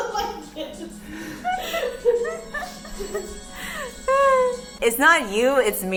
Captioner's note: 𝘸𝘩𝘦𝘦𝘻𝘪𝘯𝘨